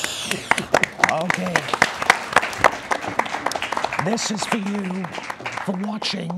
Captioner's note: applause